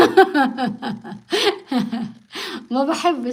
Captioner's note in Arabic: ضحك